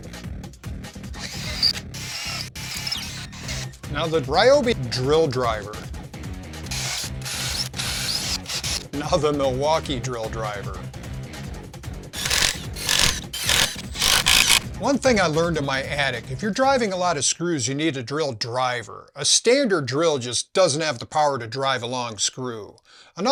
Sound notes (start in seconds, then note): 1.1 drill noises; 6.7 drill noises; 12.1 drillnoise